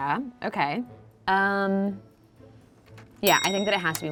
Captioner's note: bell clicking sound